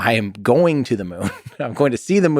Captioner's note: Tim laughs